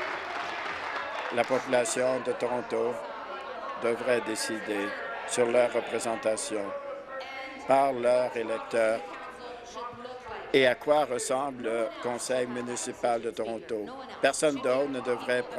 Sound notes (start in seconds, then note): 2.7 applause